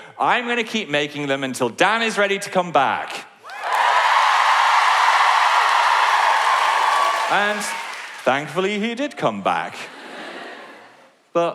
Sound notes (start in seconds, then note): 3.4 cheering